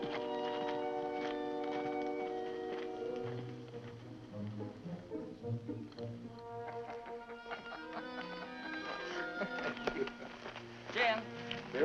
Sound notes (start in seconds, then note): 6.8 Jim laughs